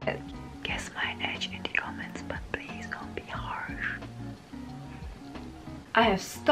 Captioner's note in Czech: šeptá